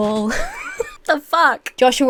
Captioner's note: Emma laughs